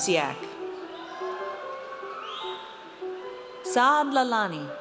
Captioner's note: audience cheers